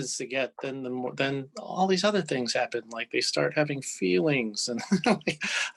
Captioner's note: laughs